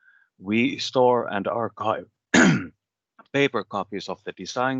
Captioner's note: clears throat